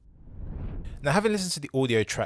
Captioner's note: air whooshing